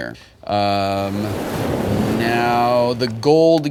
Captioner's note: waves crashing